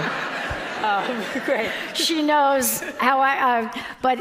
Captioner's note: audience applauding